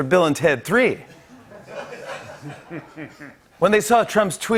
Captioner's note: laughter